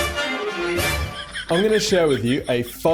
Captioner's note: dramatic music; laughing